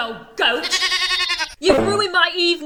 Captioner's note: goat bleating